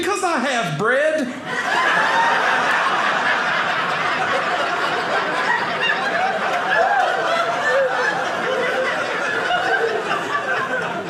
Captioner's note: audience laughing